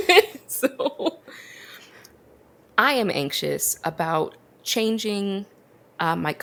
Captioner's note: laughs